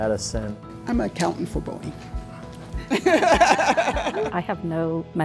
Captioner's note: laughs